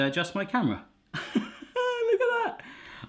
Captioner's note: laughing